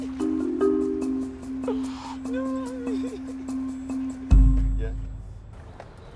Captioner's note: nervous laughter inside the car